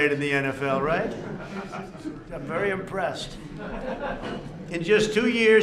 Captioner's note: laughter